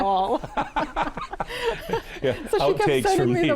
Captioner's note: group laughing